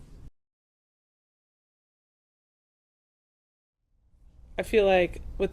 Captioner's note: silent